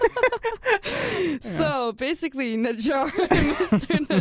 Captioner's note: both laugh